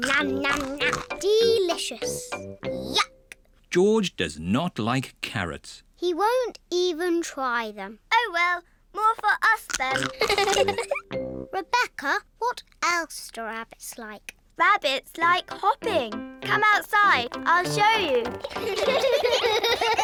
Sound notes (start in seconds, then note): 0.4 crunches; 10.0 giggles